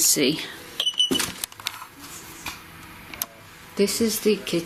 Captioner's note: beeping